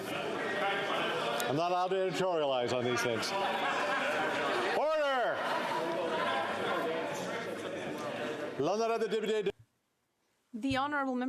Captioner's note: yelling